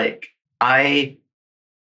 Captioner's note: laughing